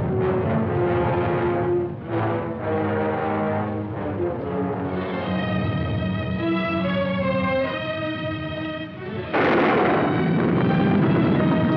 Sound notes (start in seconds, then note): 9.2 thunder